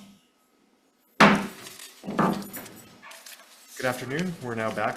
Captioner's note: gavel bangs